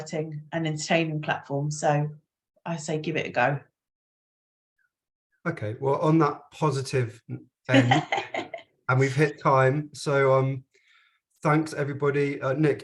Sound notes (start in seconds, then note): 7.7 chuckles